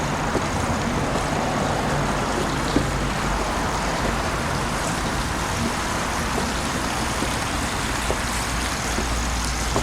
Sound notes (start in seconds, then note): 6.2 water Splashing